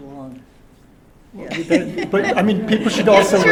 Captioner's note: laughter